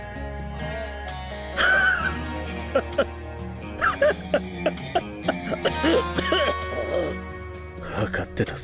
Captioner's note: cough, cough, cough